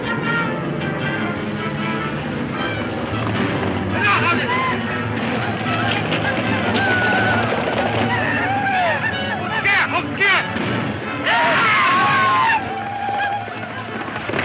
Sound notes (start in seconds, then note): 7.9 speaks in foreign language